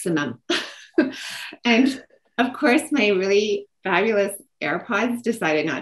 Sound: laughs

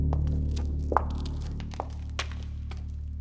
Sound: footsteps

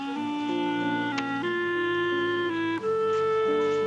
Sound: clicking

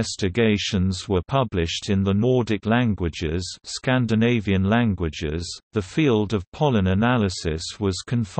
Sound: Scandinavian languages

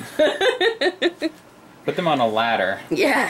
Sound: laughs

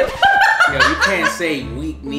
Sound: laughs

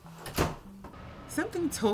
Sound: door closes

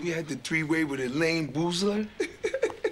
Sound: chuckles

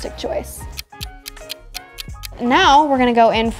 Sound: clock ticking

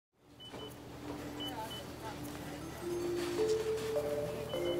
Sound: background sounds of grocery store

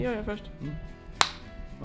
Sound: smack

